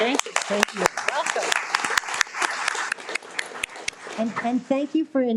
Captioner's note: all applauding